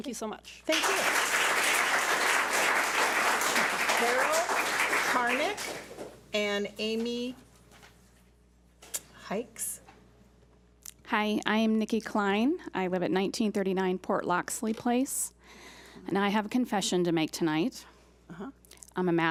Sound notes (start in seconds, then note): 0.7 public applauding